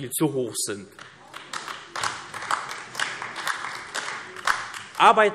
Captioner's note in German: Beifall AfD